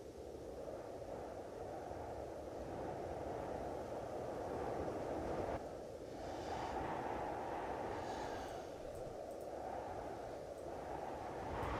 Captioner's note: wind blowing